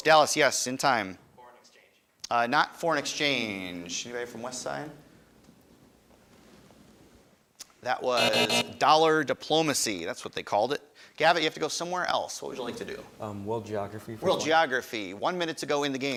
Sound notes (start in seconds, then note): 8.1 buzzer buzzing